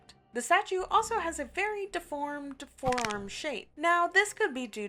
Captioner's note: bone crack